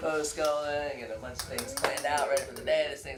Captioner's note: claps hands